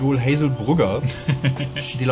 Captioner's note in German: lacht